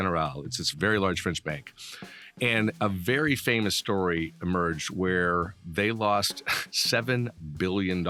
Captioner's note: laughing